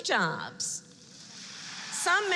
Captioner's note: applause